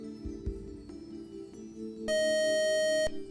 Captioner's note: buzzer